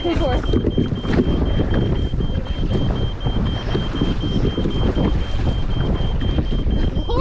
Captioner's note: constant beeping